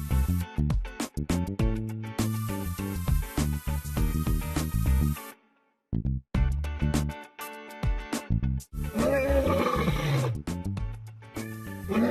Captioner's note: roar